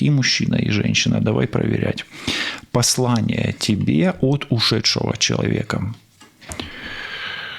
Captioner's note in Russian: вздыхает